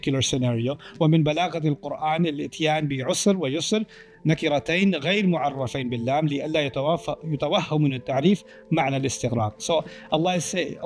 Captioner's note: Arabic